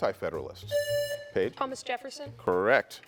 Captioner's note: buzzer buzzing